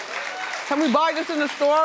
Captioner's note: crowd cheering